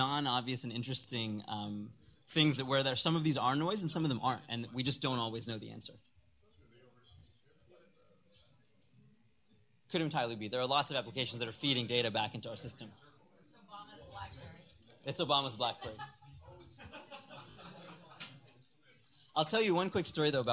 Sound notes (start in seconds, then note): 15.6 laughter